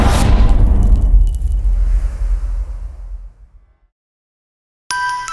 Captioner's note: impact